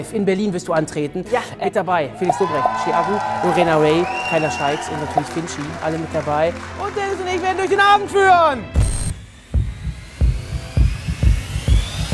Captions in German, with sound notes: in Berlin wirst du antreten. - Ja. Mit dabei Felix Lobrecht, Ski Aggu, Lorena Rae, Kayla Shyx und natürlich Finch, alle mit dabei. Und Dennis und ich werden durch den Abend führen. (Dumpfe Schläge, ansteigende Klänge)